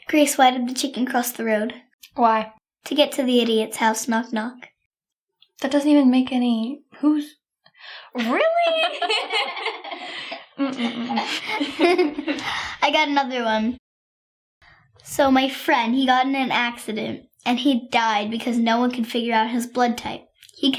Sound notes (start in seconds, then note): 8.2 all laughing